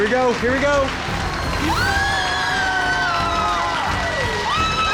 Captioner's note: cheering